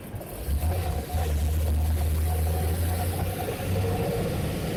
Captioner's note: car engine roaring